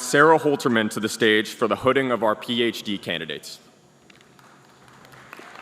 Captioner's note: applause